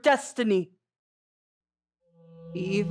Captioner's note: conch shell horn in distance